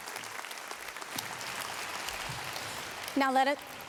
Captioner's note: applause